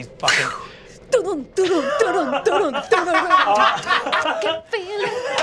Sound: mimics drumming

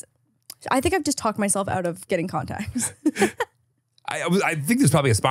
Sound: laughs

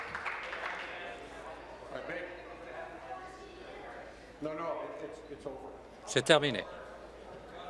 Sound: applause

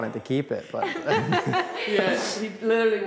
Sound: laughter

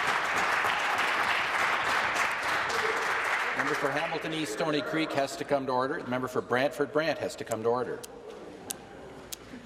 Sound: applause

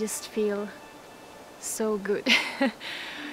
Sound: laughs

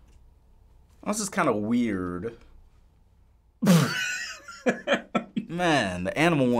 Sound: laughs

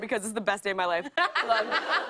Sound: laughter

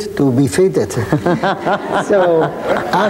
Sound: laughing; laughs

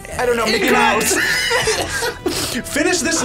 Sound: laughs

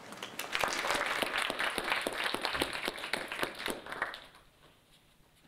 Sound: audience applauding

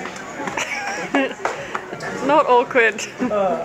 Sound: laughing

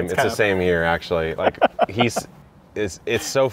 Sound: laughing

